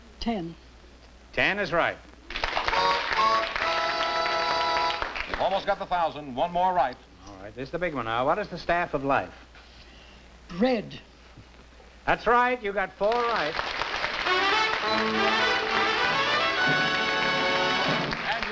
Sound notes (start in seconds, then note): 2.2 applause; 13.0 applause